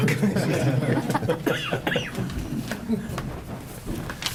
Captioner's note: group chuckles